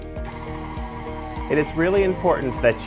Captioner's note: bright music; mixer whirring